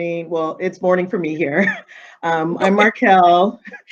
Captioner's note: chuckling